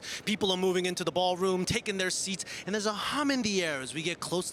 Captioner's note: none